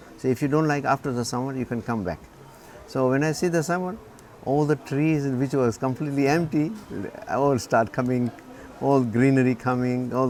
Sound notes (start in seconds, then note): none